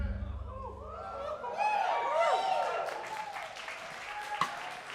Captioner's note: audience cheering